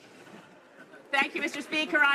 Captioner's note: speaking in french